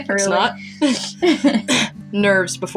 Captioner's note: laughing; both Chuckle